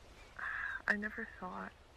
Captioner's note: sigh